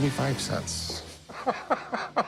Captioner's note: laughs